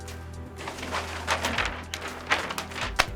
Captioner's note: blueprint rustles